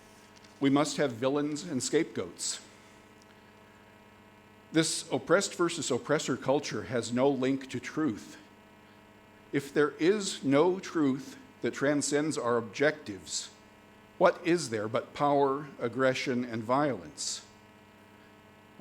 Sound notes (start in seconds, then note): none